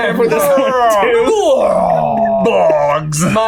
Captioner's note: all gibbering; laughs; laughing